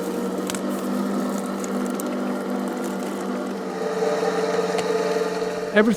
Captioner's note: machine whirring